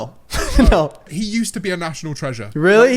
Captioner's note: chuckles